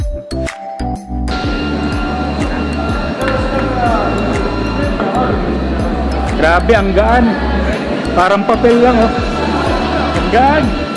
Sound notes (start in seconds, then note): 0.0 upbeat music; 2.3 people talking